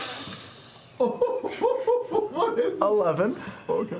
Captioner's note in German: lacht